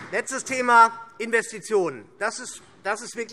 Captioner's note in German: Beifall SPD